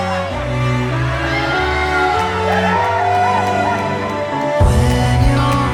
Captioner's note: wedding guests cheer